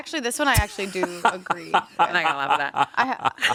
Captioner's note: laughing